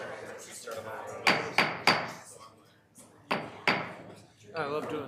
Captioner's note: gavel banging